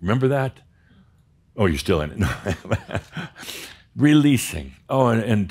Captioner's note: chuckles